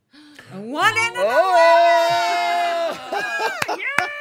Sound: cheering

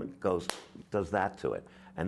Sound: claps hands

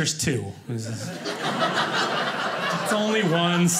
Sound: audience laughing

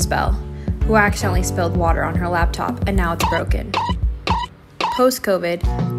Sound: anime squeaking

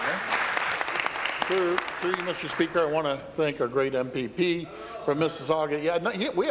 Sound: applause

